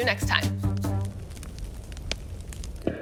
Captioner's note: fire crackles